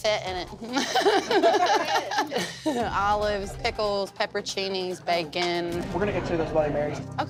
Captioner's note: laughs